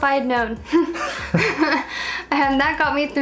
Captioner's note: both laughing